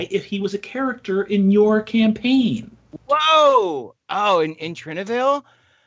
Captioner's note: none